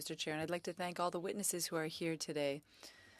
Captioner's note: speaking French